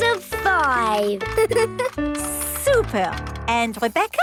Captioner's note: giggles